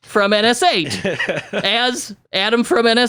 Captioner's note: laughs